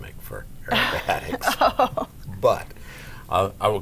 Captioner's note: both laugh